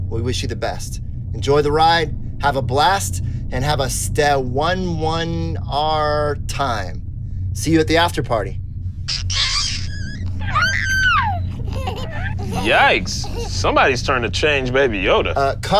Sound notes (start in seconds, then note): 9.1 baby laughing